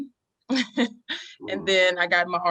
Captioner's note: chuckling